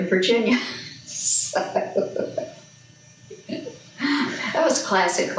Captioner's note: laughs